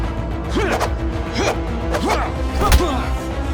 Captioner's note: dramatic music; both moaning